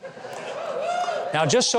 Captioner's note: audience cheering